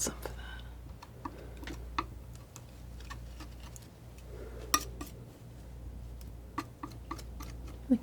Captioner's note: tapping